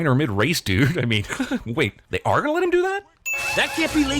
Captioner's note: laughs